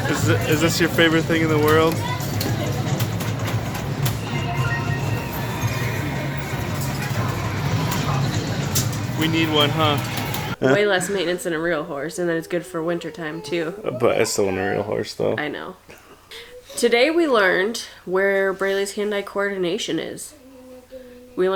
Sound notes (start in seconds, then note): 4.4 game chiming